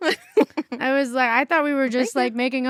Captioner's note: chuckles